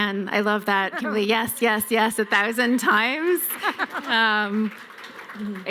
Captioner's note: applause